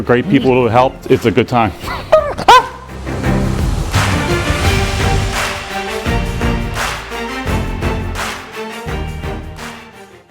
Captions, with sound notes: Great people who help, it's a good time. (dog barks) (intense music)